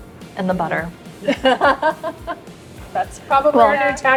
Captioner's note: laughing